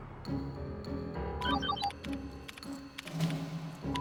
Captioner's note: beeping